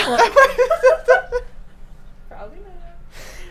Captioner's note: group laughs